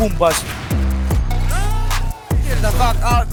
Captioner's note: audience Cheering